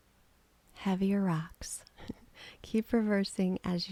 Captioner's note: chuckling